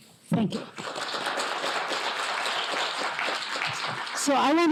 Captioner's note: applause